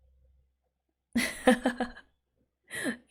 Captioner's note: laughs